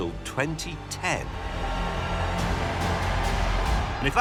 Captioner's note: cheering